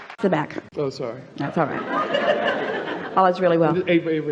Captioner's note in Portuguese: Platéia ri